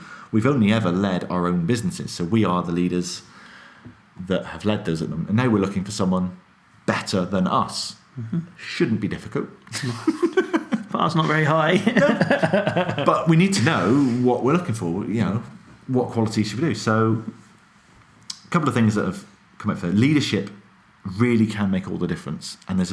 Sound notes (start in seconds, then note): 9.7 laughing